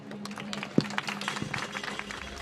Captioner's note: applause